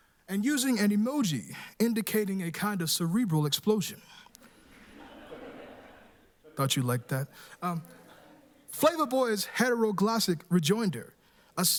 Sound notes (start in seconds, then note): 4.7 laughter